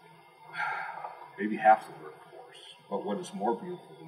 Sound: sigh

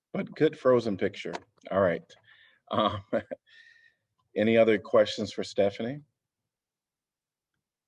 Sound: laughter

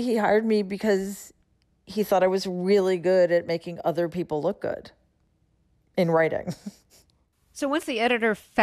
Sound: laughter

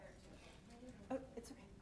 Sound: chatter

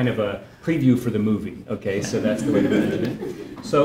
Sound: laugh

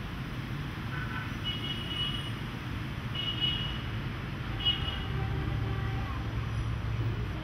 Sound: sounds of city

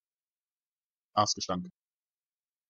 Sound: fast Pronunciation

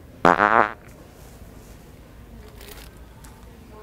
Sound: farting noise

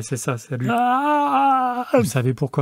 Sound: yawns loudly

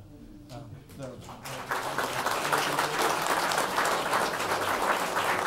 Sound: audience applauds

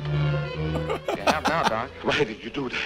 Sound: laughs

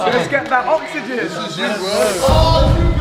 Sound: group cheering; swooshing sound

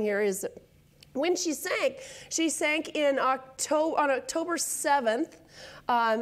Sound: none

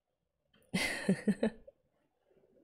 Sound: laughs

